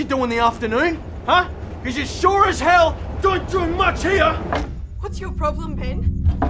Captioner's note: slams chair with hands